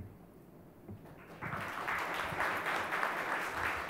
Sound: applause

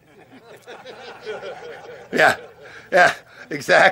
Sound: laughter

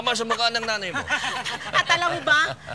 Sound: laughter

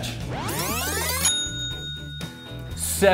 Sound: ding!

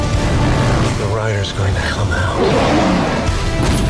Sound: he roars

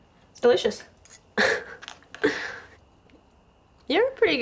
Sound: Heidi Scoffs

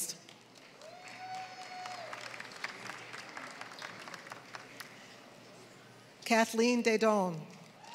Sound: applause; applause

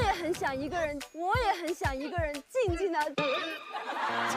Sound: trying to cry; cheering and laughing

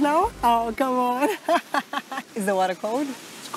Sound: laughs

